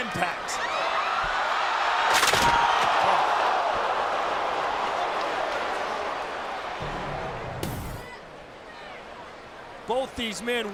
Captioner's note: applause